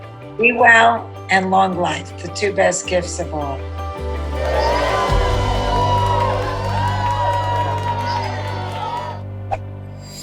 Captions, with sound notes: - Be well and long life, the two best gifts of all. (cheering)